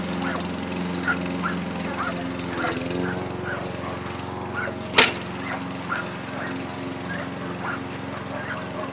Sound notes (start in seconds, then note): 4.3 lawn mower humming